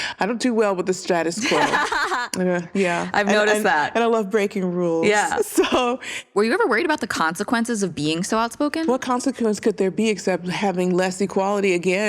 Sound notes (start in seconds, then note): 1.4 laughs; 5.7 chuckles